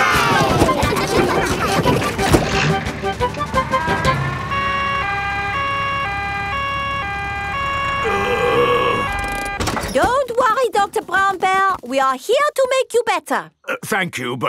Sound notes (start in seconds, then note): 1.4 giggling; 3.6 siren wailing; 8.0 groaning